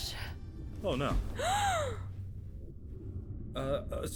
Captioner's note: Becky gasping